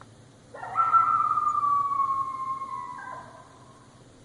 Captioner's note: animal howling